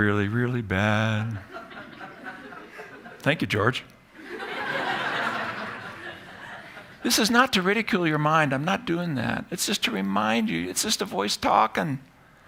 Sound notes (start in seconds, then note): 1.0 ends singing; 1.4 laughter